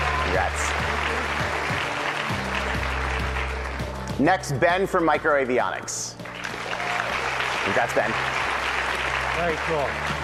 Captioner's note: applause